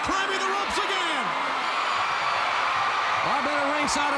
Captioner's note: crowd cheering